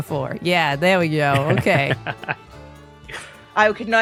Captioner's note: laughs